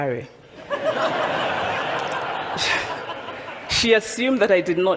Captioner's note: audience laughs